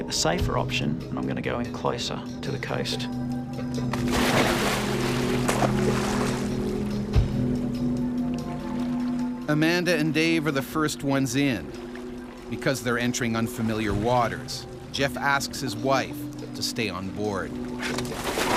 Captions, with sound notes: I'm gonna take the safer option and I'm gonna go in closer to the coast. - [Voiceover] Amanda and Dave are the first ones in. Because they're entering unfamiliar waters, Jeff asks his wife to stay on board.